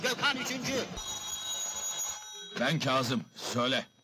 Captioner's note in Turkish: telefon çalar